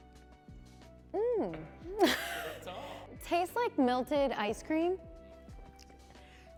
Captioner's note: soft Christmas music; laughs